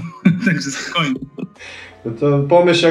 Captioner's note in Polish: śmiech